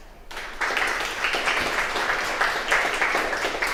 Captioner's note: applause